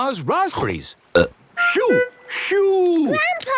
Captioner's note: seagulls cries; burp